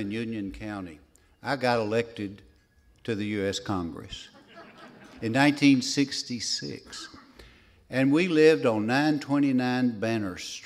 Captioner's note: laughs